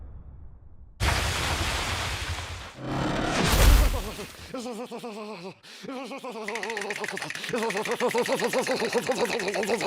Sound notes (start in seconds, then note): 3.2 walls creaking; 4.3 loudly shivering; 6.2 teeth chattering